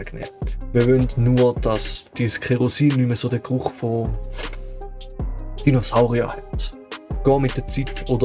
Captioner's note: sniff, sniff